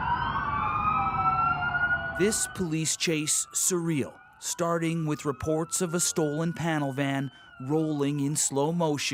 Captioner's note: sirens